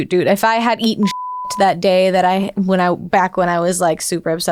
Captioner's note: beeping